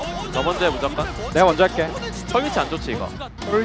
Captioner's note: BuZz